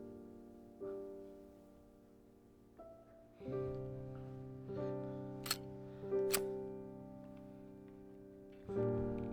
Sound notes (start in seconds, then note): 5.4 gun clicking